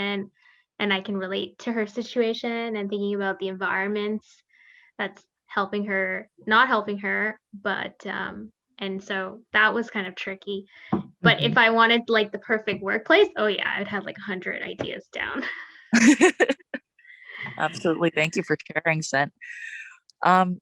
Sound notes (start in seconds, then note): 15.9 chuckles